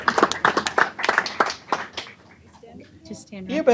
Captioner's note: applause